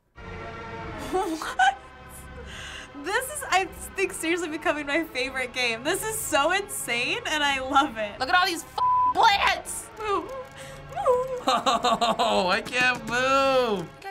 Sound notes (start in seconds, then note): 0.4 disturbing music; 9.9 whimpering